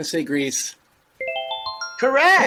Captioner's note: twinkling sound